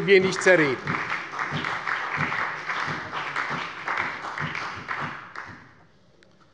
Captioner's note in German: Beifall bei der SPD, der CDU und dem BÜNDNIS 90/DIE GRÜNEN